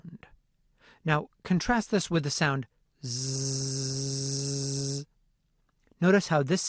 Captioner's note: zzzzzzzzzz